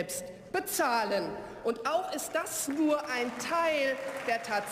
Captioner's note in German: Beifall